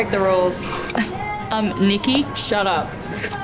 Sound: scoffs

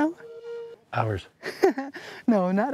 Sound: laughs

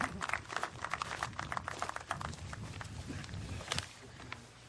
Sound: applause

